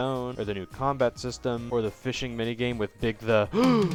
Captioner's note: gasp